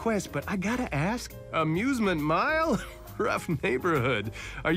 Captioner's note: chuckles